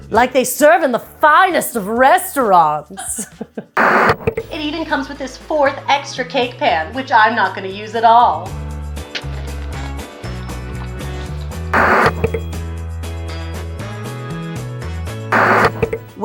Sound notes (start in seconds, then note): 2.9 laughing; 3.8 TV static; 9.8 upbeat music